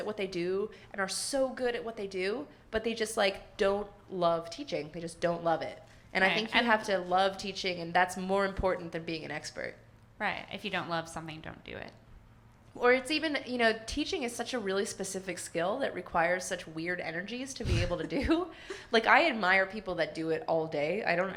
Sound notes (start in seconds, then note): 17.6 laughs